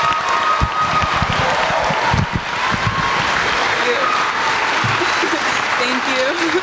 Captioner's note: applause